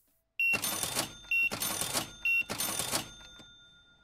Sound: beeping

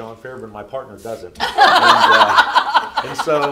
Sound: group laughing

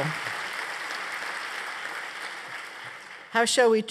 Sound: applause

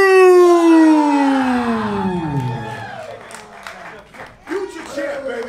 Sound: audience cheering

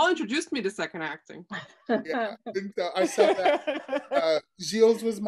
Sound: laughing

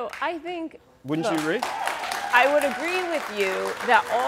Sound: audience cheering

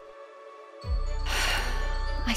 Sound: sigh

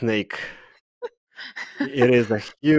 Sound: laughter

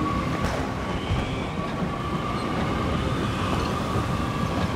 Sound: winds gusting

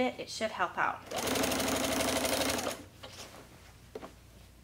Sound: machine whirs

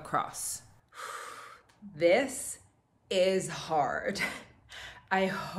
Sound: exhales

